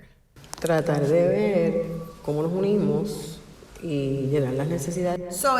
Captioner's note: woman speaking in Spanish